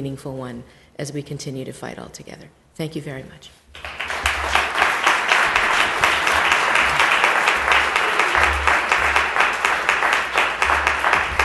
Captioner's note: applause